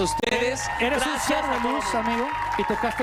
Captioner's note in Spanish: vítores